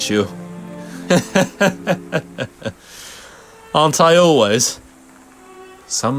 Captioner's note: laughs